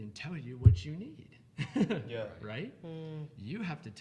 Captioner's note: laughing